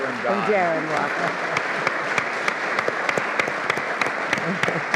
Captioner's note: all Applauding